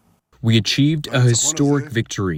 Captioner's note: through translator